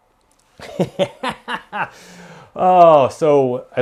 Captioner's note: laughs